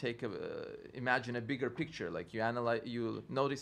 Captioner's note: stutters